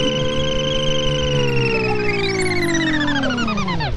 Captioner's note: machine beeping; machine whirring